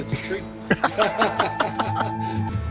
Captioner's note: laughing